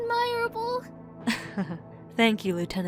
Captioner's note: chuckle